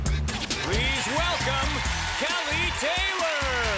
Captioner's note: cheers and applause